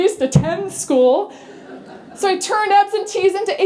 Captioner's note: laughter